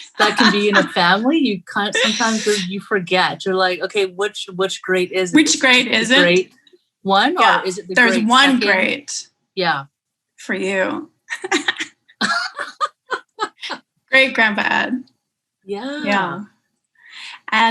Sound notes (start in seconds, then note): 12.2 laughing